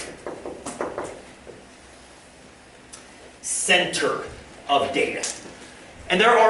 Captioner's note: tapping